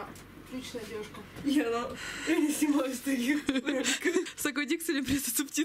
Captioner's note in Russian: смеются